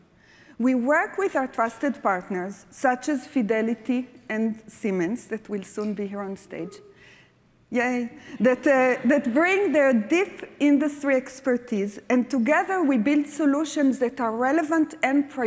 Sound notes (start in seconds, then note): 8.6 laughter